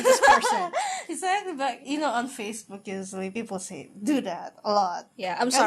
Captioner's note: laughs